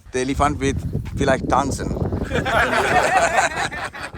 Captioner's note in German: Gelächter